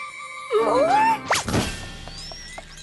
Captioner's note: thud!